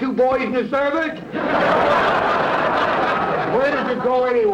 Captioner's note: audience laughter